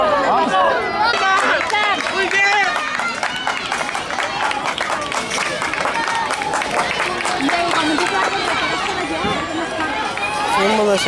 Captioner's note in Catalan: La gent anima cridant i aplaudint